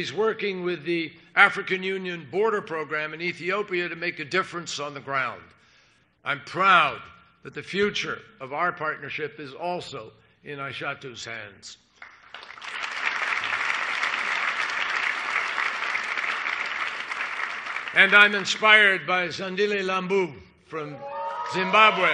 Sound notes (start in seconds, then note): 14.6 applause; 20.8 cheers and applause